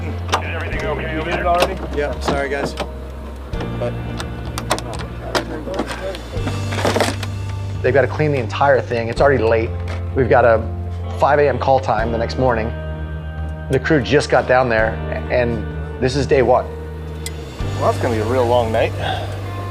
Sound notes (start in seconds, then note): 0.2 guy speaking over the radio; 3.5 metal jangling